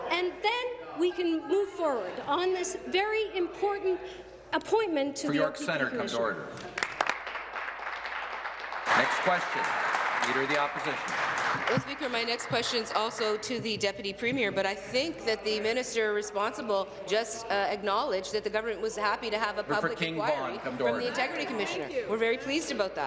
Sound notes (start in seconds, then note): 11.6 applause